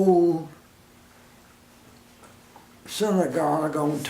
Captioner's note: silence